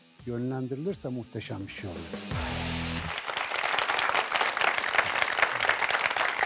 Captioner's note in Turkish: alkış